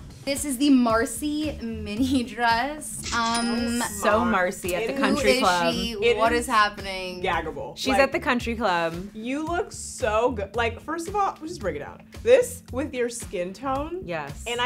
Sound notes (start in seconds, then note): 2.9 cash register rings